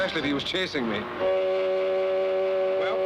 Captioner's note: horn blaring